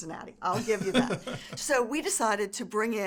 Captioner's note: laughs